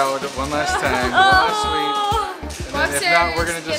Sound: groaning

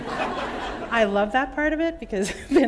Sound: laughter

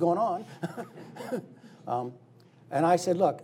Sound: laughing

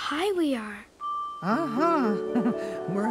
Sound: chuckle

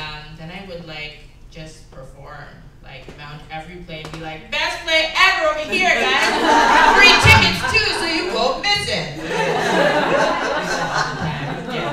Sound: laughter

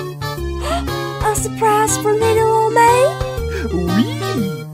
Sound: gasp!

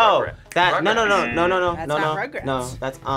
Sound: buzzer

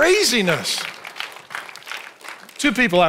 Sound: congregation applauds

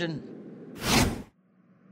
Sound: swoosh

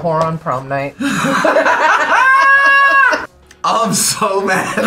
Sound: both laugh

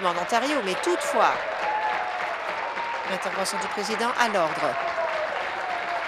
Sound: applause

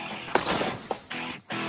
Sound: smash; fast exciting music

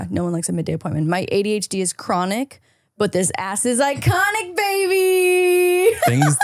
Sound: laughing

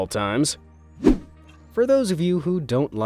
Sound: transitional wipe-screen rushing sound

